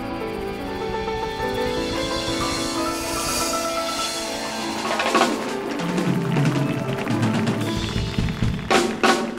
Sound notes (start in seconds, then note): 4.8 audience cheers and applauds